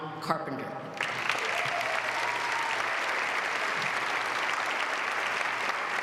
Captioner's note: applause